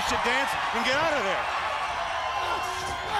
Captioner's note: crowd cheering